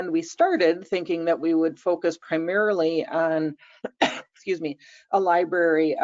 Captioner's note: coughs